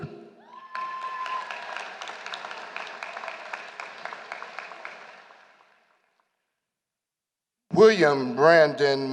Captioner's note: applause